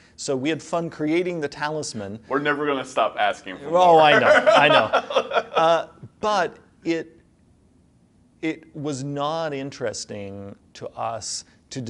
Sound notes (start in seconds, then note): 4.0 laughs